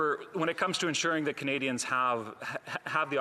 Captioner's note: laughter